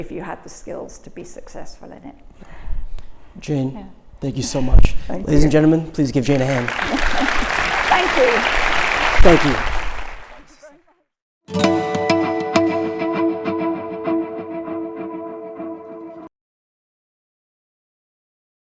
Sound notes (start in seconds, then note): 6.2 applause; 11.4 upbeat instrumental music